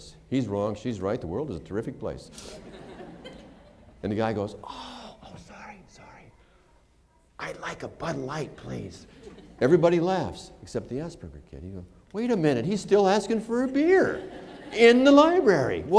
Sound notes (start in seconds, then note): 2.4 laughter; 4.5 whispering; 13.8 laughter